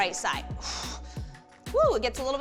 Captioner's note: exhales harshly